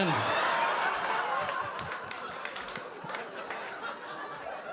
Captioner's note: audience laughing